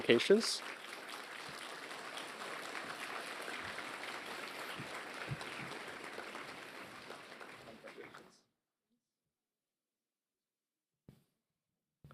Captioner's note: applause